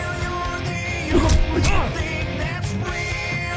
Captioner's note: multiple hitting impacts